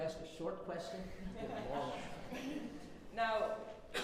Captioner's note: everyone laughs